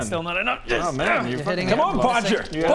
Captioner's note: grr-urgh